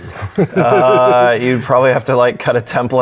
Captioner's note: laughs